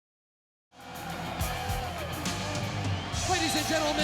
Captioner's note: crowd cheering; upbeat rock music